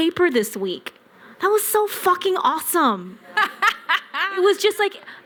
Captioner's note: laughter